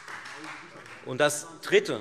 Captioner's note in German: Beifall Freie Demokraten